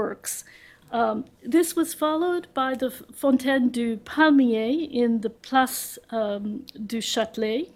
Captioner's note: french